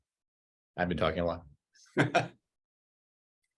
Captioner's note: laughs